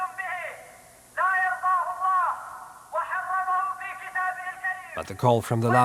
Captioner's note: speaking in Arabic